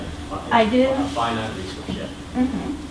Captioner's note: voiceover